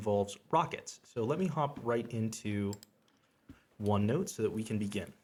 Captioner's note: mouse clicks